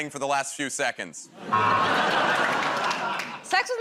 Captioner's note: laughter, buzzer